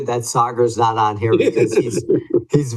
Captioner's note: laughs